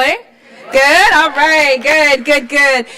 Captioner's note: cheers